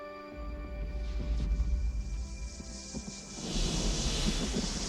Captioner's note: rumbling